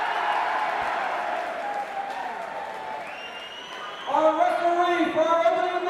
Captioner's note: crowd cheering